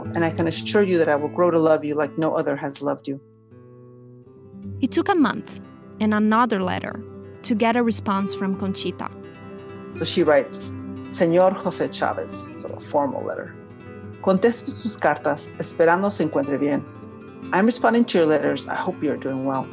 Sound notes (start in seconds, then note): 10.8 Spanish